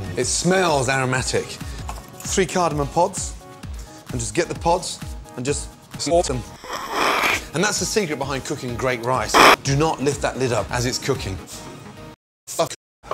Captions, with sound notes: It smells aromatic. 3 cardamom pods... and just get the pods... and just snort 'em. [Snorting] And that's the secret behind cooking great rice: [Snorting] Do not lift that lid up as it's cooking. Fuck!